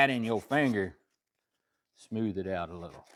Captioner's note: scraping